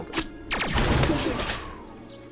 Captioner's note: explosion